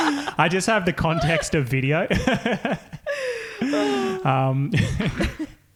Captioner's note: laughing; laughing